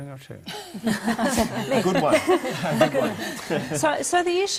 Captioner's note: all laugh